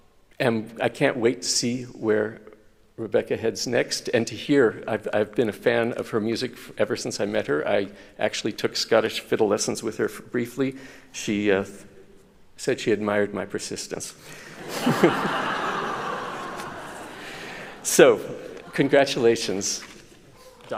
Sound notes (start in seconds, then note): 14.5 chuckles